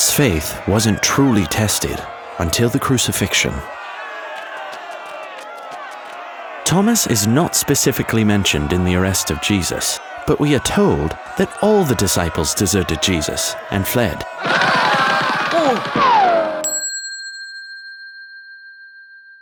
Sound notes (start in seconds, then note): 0.0 crowd yelling; 4.3 footsteps pattering; 14.3 footsteps pounding; 14.4 Thomas zooming; 16.5 bell dinging